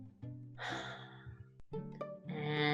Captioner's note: exhales deeply